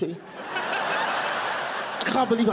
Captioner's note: audience laughing